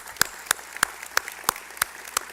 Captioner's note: applause